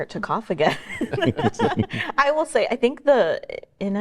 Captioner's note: panelists chuckling